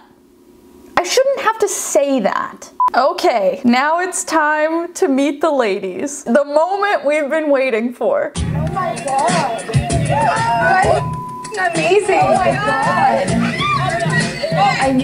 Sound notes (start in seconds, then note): 10.9 beep; 13.0 contestants cheering